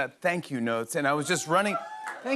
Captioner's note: cheers and applause